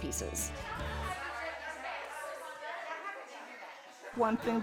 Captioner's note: people chitter-chatter